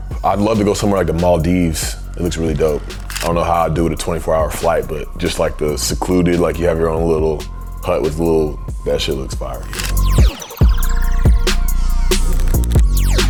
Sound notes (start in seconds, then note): 2.5 camera shutters; 9.6 camera shutters; 10.5 upbeat music